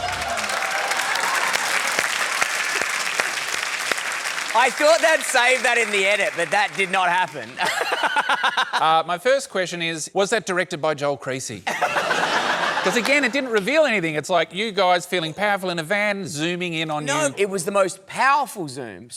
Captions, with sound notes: (CHEERING, APPLAUSE) I thought they'd save that in the edit, but that did not happen. (LAUGHS) Ah, my first question is, was that directed by Joel Creasey? Because again, it didn't reveal anything. It's like you guys feeling powerful in a van zooming in on you. No. It was the most powerful zoom.